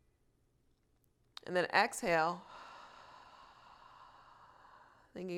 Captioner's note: exhales slowly